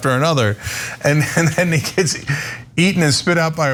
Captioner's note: laugh